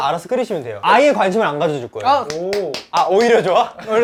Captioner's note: applause